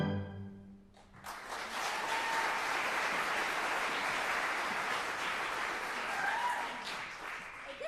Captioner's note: applause